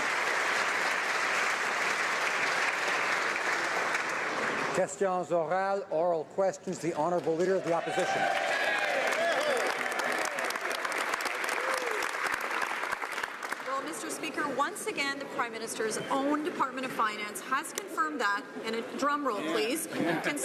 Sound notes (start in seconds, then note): 2.4 applause; 12.0 some Applause